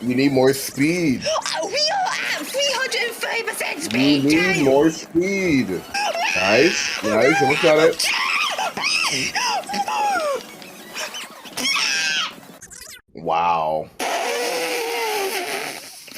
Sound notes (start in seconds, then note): 5.9 completely incoherent screaming